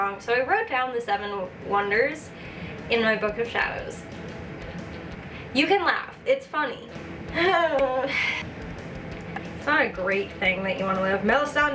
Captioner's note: sigh